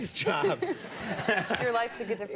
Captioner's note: laughter